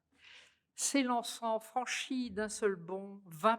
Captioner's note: speaking french